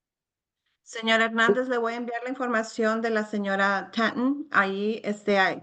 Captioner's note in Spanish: hablando en español